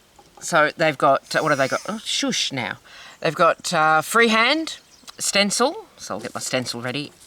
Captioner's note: buzz